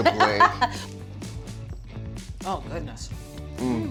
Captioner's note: laughing